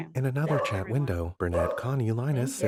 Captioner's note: dog barking